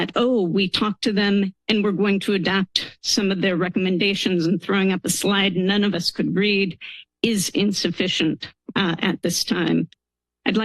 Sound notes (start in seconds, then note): none